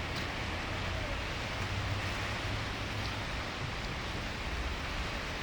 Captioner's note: waves crashing